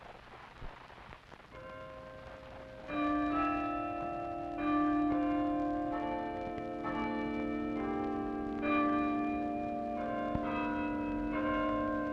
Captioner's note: bells Ringing